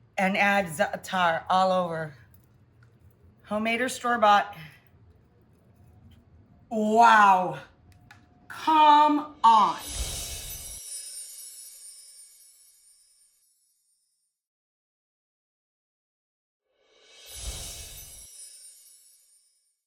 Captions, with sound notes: and add Zaatar all over, homemade or store bought. Wow! Come on! (chiming sound)